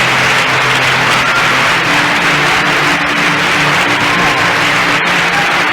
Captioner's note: applause